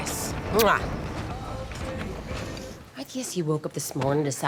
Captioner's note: Angela smacking lips